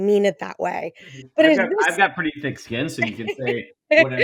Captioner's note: laughs